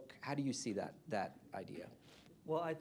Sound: off-mic

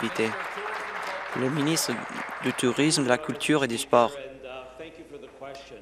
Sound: applause

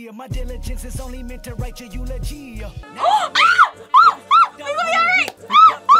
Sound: gasps and screams; screams

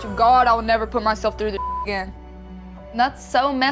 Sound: beep

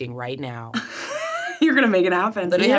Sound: laughs

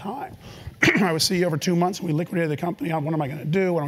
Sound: cough

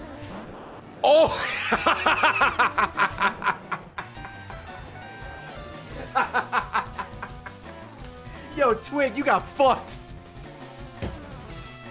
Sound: laughs

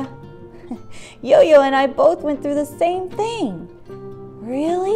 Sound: giggle

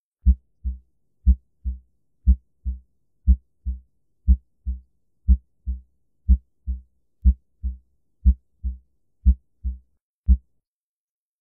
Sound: 'lub -dub' pumping sound

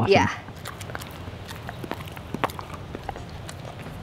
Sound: Kobe chews

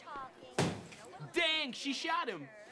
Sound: loud bang

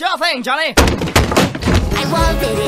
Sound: sounds of dangerous stair-related activities

